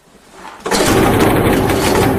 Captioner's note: engine starts